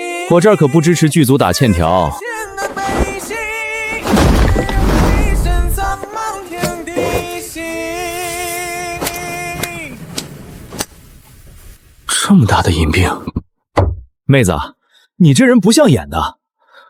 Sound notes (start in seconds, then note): 4.0 bang!